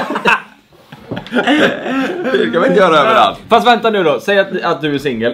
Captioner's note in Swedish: skratt